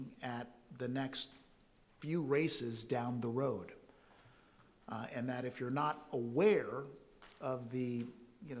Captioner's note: none